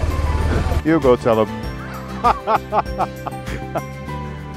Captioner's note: laughing